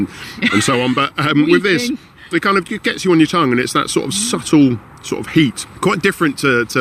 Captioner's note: laughs